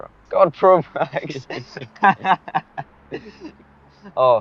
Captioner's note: both chuckle